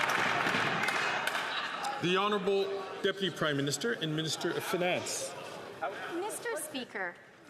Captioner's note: some Applause